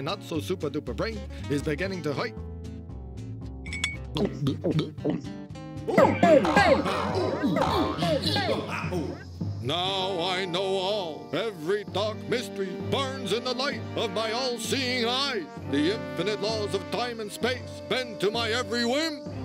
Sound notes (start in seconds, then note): 4.1 gulping; 5.9 boinging noises